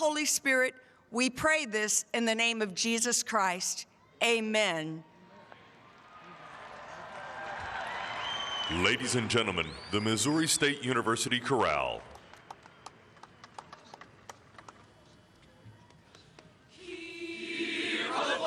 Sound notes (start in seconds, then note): 9.4 applause; 10.2 cheering